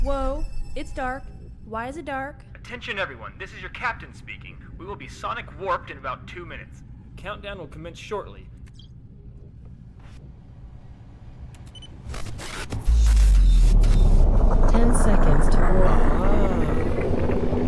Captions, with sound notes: - Whoa, it's dark. Why is it dark? - Attention everyone, this is your captain speaking. We will be sonic warped in about two minutes. Countdown will commence shortly. (loud blasting) - 10 seconds till warp.